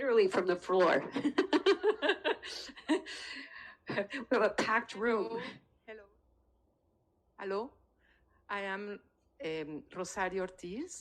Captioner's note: speaking in French